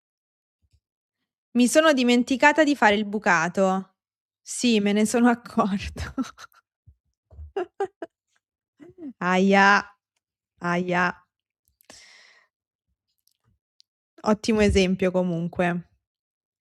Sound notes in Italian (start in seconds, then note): 7.4 risate